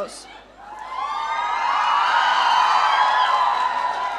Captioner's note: audience cheering